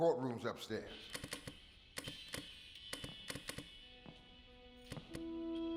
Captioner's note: flipping switches